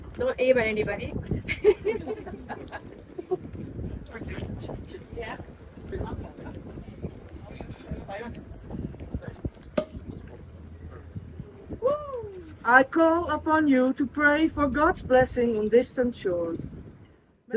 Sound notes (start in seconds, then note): 2.4 laughs; 9.8 cork pops